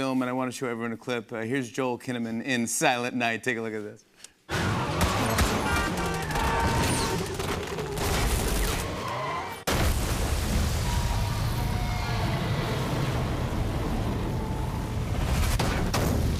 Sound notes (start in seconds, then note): 8.0 metal crunching